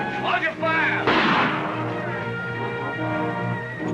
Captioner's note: gunshot